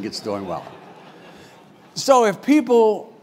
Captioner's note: laugh